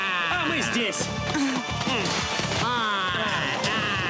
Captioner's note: kiaiing